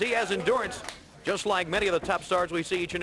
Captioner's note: crowd chatter